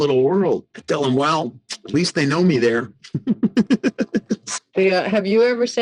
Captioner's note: laughing